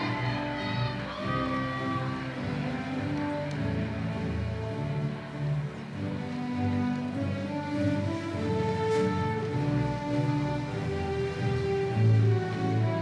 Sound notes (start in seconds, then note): 1.0 applause